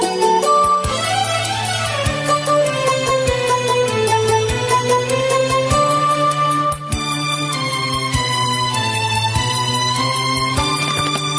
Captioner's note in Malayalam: കരഘോഷം